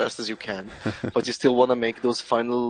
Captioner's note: laughs